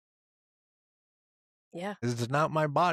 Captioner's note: laughs